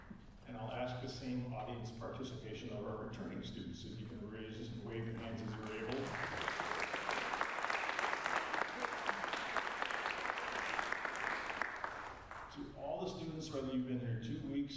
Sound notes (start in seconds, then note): 6.8 applause